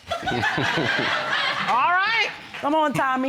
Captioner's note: audience laughing